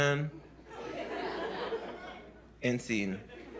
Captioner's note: laughter